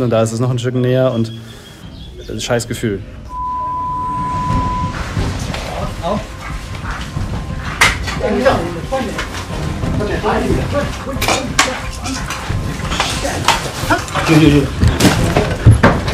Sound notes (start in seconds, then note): 3.3 beep; 4.5 driving music; 12.2 buzz of voices